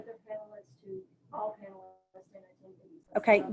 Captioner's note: speaking faintly